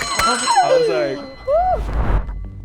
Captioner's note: bell dings